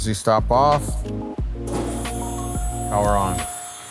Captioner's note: machine whirs